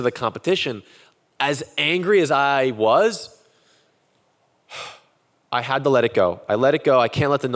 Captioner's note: sighs